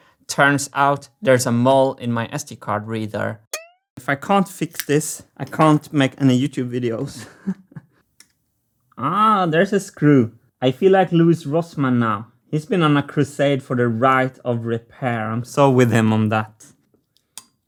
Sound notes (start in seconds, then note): 3.5 boing; 7.1 chuckles